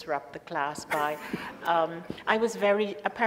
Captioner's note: laughs